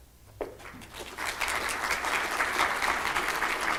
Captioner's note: applause